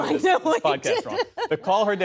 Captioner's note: laughter